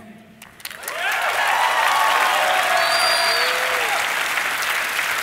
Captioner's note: audience cheering